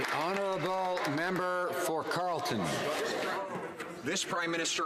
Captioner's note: some Applause